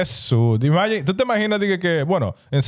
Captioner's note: speaking In Foreign Language